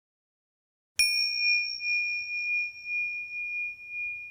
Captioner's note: bell dings